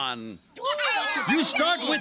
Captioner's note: all cheering